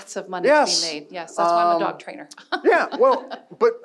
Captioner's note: laughing